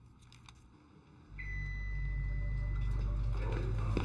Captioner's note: suspenseful music; elevator pings